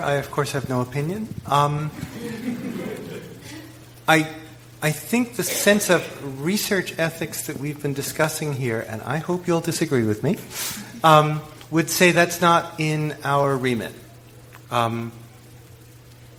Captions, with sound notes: I of course have no opinion. (audience laughs) I think the sense of research ethics that we've been discussing here, and I hope you'll disagree with me, would say that's not in our remit,